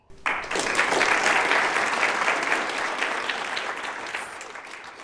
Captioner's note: audience applauding